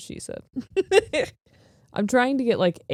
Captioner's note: laughing